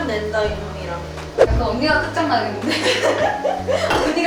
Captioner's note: haha